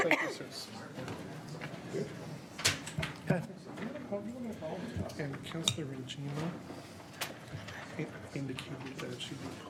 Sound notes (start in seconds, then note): 0.2 coughs; 5.8 whispering